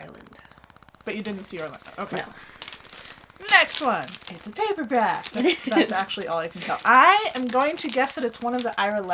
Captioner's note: laughs